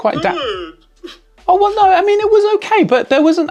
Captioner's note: cries